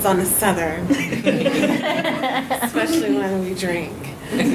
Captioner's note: audience laughs